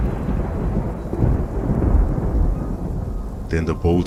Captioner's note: thunder crack; thunder rumbling in the distance